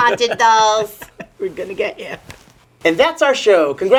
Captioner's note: laughing